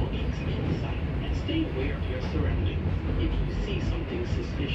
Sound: NYCT Subway announcement

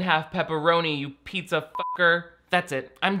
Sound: beep

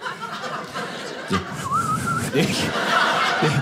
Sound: whistling

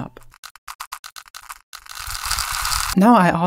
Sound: crackling sound

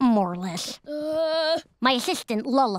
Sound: groaning

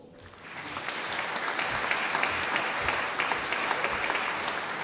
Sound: audience applauding

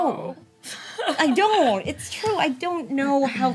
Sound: Elle laughs

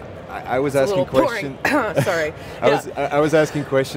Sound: coughs

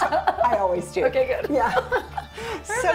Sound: both laughing

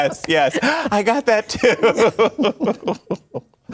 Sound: laughter

